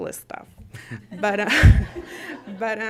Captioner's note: laughter